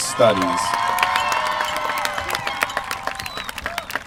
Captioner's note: applause